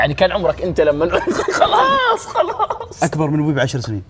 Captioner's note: laughs